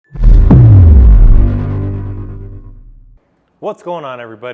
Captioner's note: dramatic boom